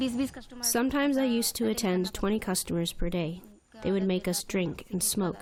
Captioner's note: through translator